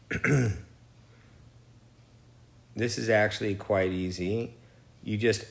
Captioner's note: clears throat